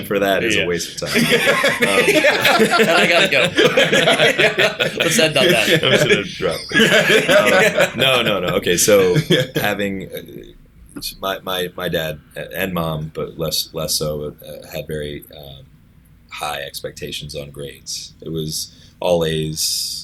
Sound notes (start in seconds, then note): 0.0 laughter